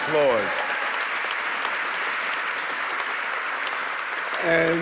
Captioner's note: audience cheering